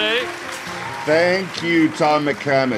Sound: audience applauding

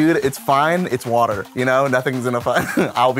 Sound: laughs

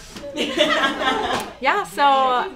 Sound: group laughs

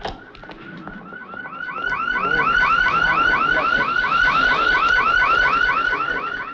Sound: ambulance siren blares

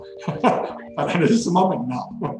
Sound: laughs

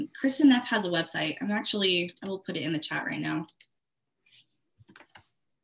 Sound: typing sounds

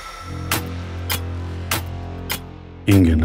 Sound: tick-tock sound

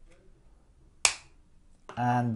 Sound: crack

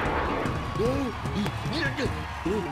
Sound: gasping

